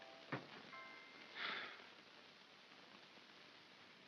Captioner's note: soft music; Ollie sighs